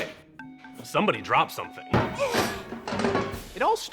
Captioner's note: man gasping